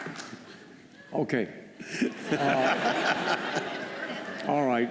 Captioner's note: laughter